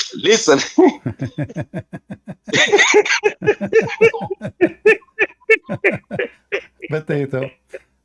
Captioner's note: Ketawa